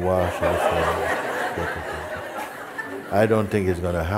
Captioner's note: laughter